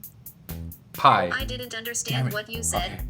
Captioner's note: voiceover